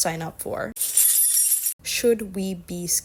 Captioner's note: jingling keys